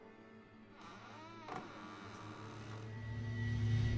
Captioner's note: door creaking; soft ominous music